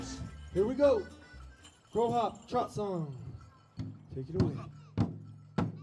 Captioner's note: in foreign language